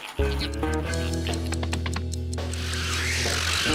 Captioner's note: watch ticking